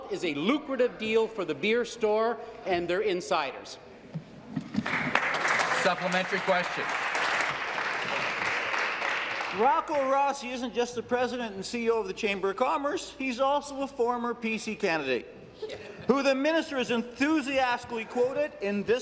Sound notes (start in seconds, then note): 7.0 applause